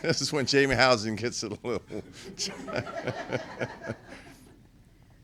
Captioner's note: laughter